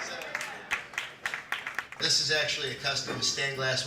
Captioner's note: applause